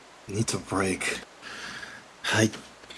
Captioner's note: shaky Breath